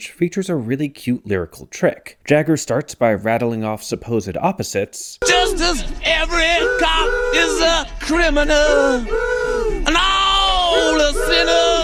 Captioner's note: bang